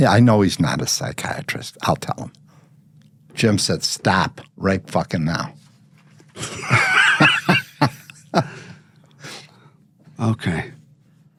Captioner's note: laughing